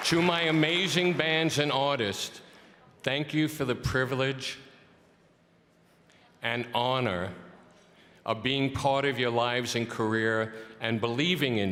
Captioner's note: cheering and applause